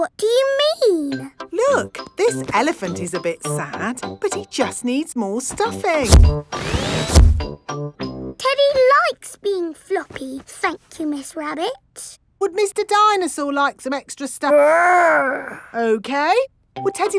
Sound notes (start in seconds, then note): none